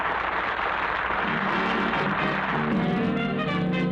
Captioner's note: applause